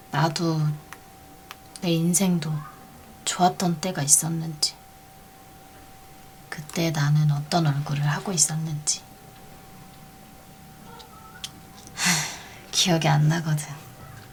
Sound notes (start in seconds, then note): none